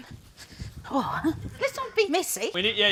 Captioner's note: sighs